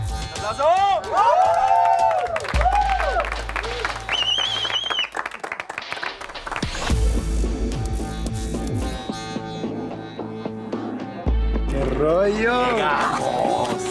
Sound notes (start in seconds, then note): 3.0 applause and celebration; 7.3 tense music